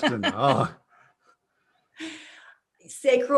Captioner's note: everyone laughs